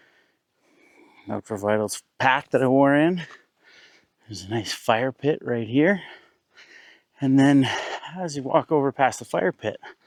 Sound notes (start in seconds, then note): none